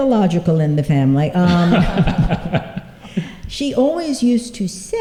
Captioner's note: laughter